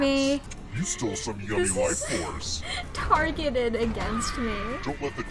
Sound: through laughter

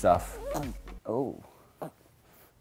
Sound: dog whimpering

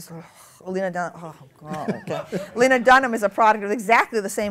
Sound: laughter

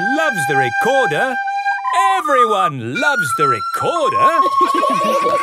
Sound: laughter

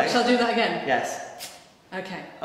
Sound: spark noises

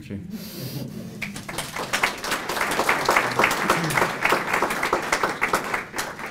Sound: applause

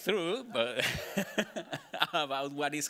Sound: laughing

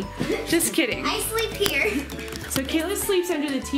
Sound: laughs

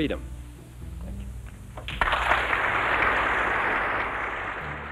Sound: applause

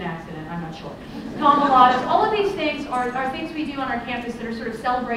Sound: laughter

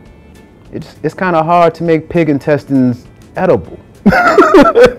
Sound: laughing

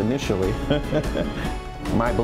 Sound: laughs

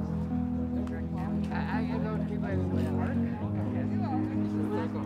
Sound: helpers chattering

